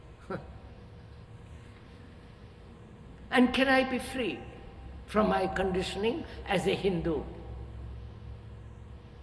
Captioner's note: laughs